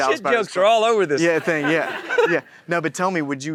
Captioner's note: chuckles